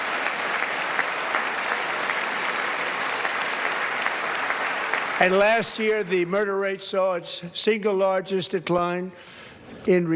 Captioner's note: applause